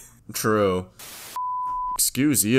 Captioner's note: static